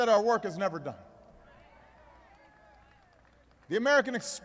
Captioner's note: applause